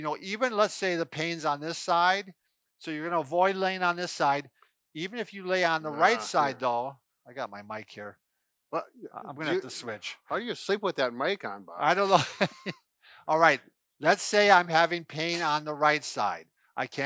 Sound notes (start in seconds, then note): 11.9 chuckles